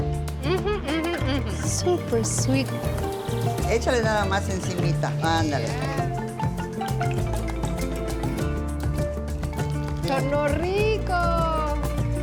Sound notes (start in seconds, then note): 4.1 speaks Spanish; 10.3 speaks Spanish